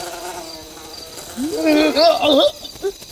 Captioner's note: fly Buzzing Sound; anguished Cry